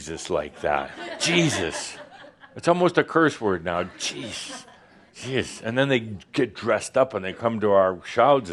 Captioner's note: laughter